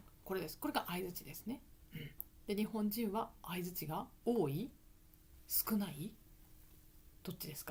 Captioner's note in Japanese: 咳払い